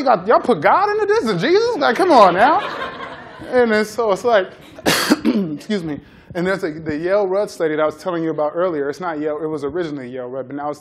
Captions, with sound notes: Y'all put God into this? Jesus? Come on now. [LAUGHTER] And that's the Yale Rudd study that I was telling you about earlier. It's not Yale-- it was originally Yale Rudd,